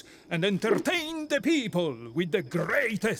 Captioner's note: none